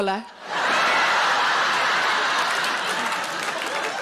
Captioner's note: audience laughing